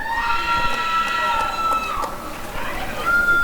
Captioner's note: applause and cheering